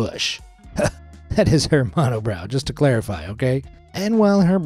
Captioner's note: chuckles